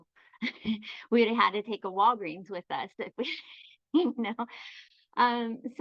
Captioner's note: chuckles